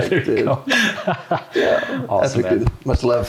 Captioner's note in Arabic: يضحك